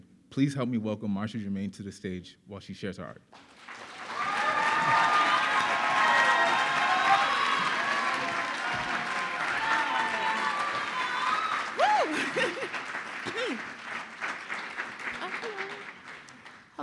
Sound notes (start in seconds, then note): 4.5 audience applauding; 4.5 audience cheering; 11.7 laughs